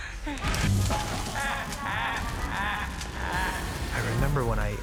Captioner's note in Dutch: joker maniaal lachend